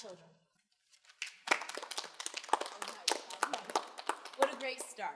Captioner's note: students applauding